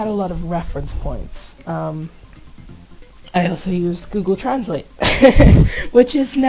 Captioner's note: laughs